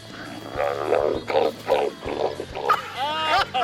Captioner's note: groans